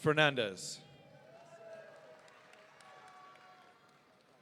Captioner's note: audience cheering